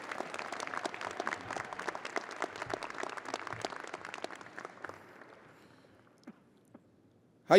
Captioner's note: audience applauding